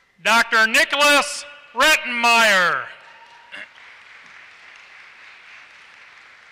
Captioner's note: applause